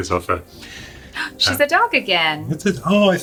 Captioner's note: ghasps